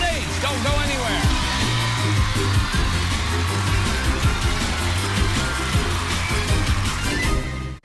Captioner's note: cheers and applause